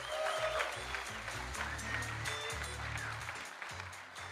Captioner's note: audience applauding